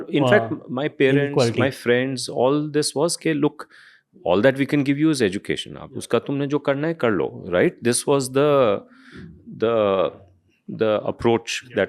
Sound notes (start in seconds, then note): 8.2 speaks in Hindi